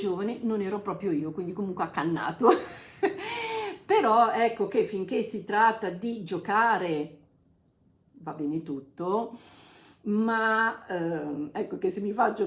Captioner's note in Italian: risate